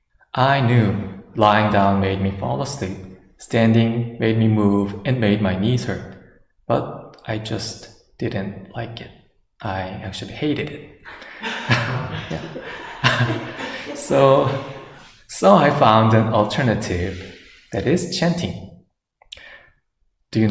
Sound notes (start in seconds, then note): 11.1 laughter